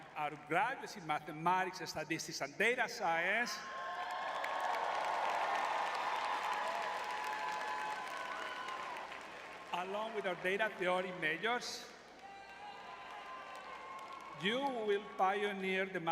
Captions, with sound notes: our graduates in mathematics and statistics and data science- [crowd cheering] ... along with our data theory majors- [crowd cheering] ... you will pioneer the